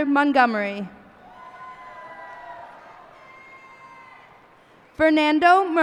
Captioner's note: cheers and applause